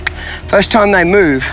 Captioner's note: mouth clicking